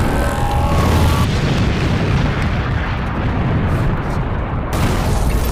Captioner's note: explosions